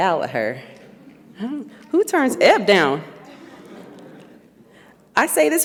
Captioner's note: audience laughs